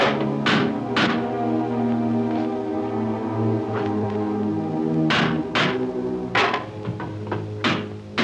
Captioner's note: hammer bangs